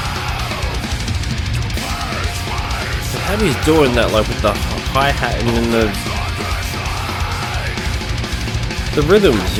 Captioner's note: screaming